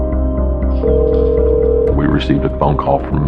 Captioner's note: phone ringing